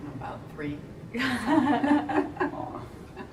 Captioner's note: laughing